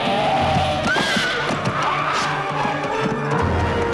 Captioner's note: horse neighs